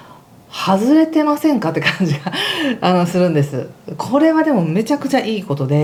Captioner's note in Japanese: 笑い